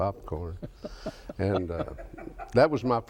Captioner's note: laughs